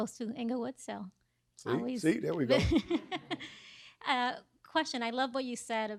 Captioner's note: laughs